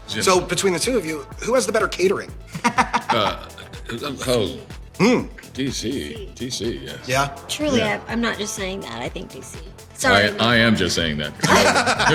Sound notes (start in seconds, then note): 2.5 laughter; 11.3 laughter